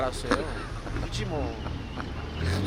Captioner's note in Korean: 웃음